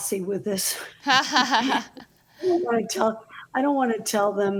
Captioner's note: laughs